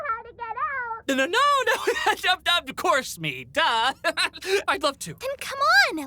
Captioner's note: laughing nervously; laughs